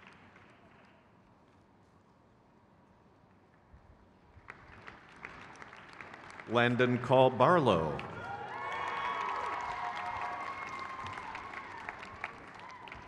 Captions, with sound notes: Clinical Professor Family and Community Medicine. (crowd claps) Kit G. Martin. (crowd cheers)